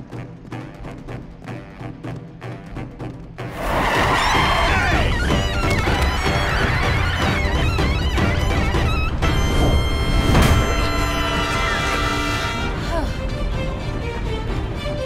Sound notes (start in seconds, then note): 12.8 sighing